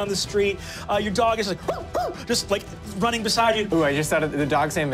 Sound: barking

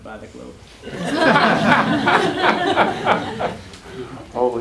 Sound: laughter

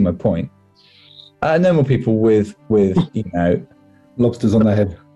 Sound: laughing

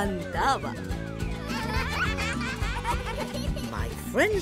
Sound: laughing

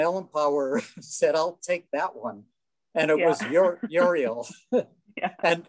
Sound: chuckling

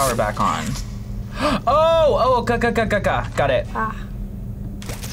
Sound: gasps

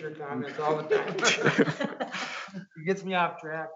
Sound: chuckles

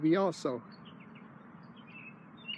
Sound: birds singing

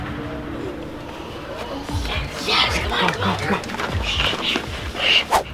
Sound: excited whispers

